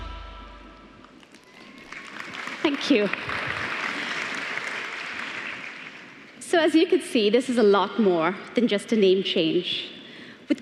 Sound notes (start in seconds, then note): 5.5 applause